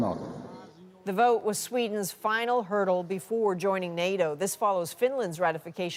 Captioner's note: speaking alternate language